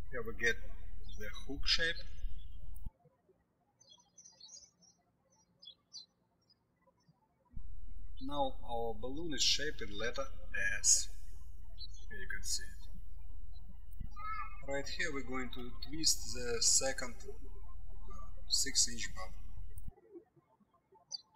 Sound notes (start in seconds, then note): 3.5 birds chirping